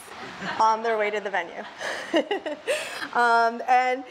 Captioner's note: laughs